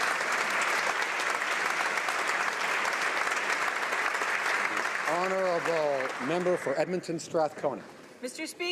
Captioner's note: some Applause